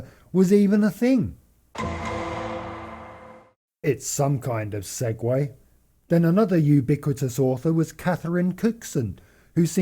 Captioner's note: ding ding